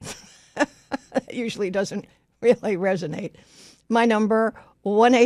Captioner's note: laughs